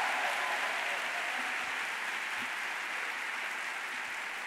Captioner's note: audience applauding